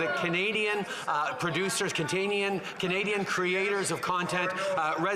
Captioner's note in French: voix de l'interprète